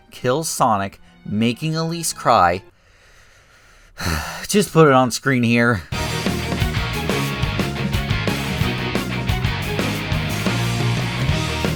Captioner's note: sigh